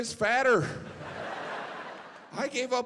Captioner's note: audience laughing